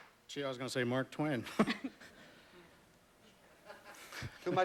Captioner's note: chuckles